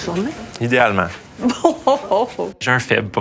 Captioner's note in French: rire